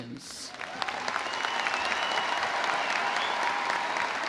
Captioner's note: audience applauding